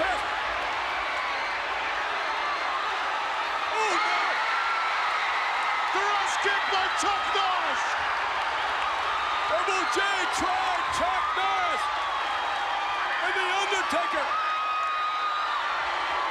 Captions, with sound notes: He's trying to get past... (crowd cheering) Thrust kick by Chuck Norris. Double J tried out Chuck Norris. And the Undertaker has Yokozuna.